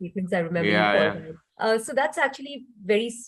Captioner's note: laughing